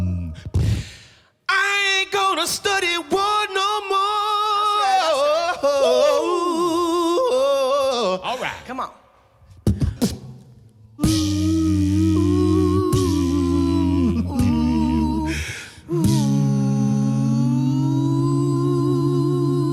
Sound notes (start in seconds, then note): 9.6 beatboxing softly